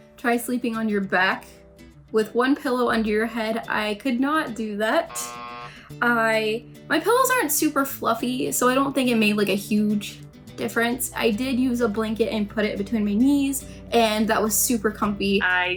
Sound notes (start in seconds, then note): 5.0 buzzer rings